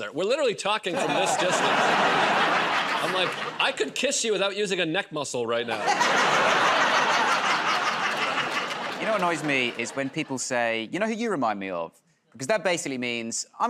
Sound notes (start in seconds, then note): 5.7 laughter